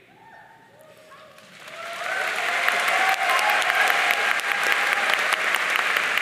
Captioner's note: audience cheering and applauding